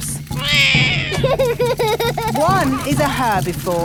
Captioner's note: laughs; roars